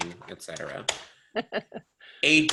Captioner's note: student laughs